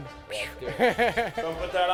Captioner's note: laughing